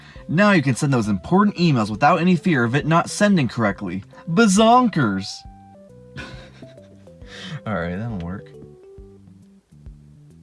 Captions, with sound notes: Now you can send those important emails without any fear of it not sending correctly! BIZONKERS! *Chuckle* Alright, that'll work.